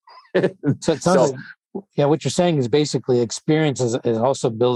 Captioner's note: laughs